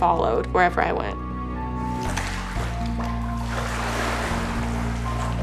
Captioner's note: water splashes